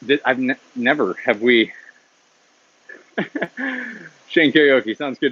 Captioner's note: laughs